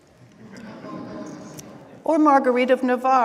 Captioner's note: laughing